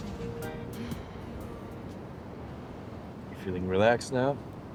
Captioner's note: Fern sighs